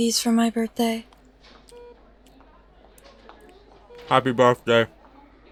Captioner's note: chewing